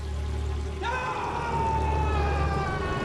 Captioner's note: screams